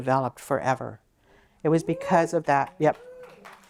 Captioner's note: cheer